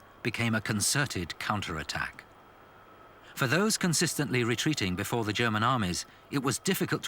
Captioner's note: none